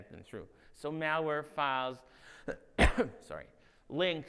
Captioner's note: coughs